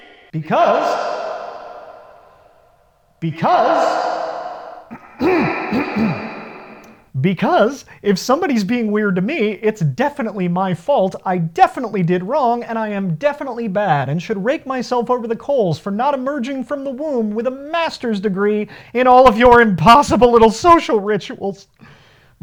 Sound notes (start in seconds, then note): 0.0 reverb; 3.7 clears Throat